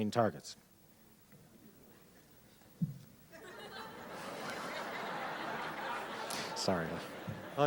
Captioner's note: laughter